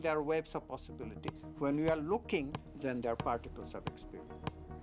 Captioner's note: ball Bouncing